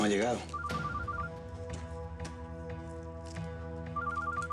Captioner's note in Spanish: suena celular